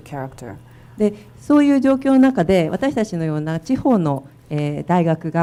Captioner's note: speaking foreign language